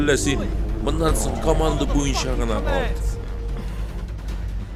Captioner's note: guards profanely arguing in the distance